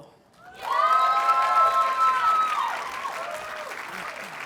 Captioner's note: audience cheers and applauds